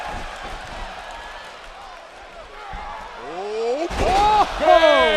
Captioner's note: crowd cheering